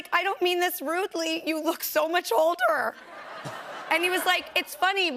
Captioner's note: laughter